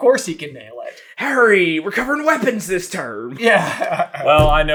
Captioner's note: laughs